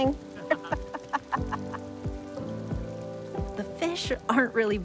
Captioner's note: laughing